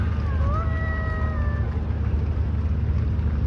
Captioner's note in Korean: 우와아